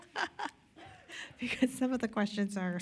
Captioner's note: laughter